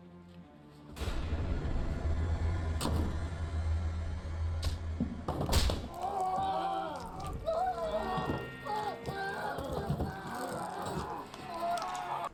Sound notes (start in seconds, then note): 5.5 growls; 5.8 screams